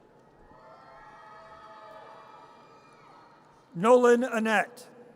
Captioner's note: audience cheers